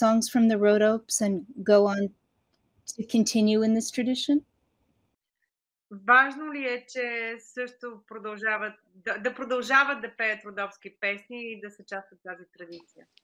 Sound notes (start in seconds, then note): 5.2 foreign Language Spoken